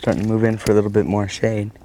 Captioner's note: splash